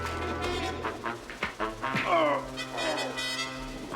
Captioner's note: groans; tense music